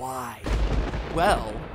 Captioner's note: SFX: Thunder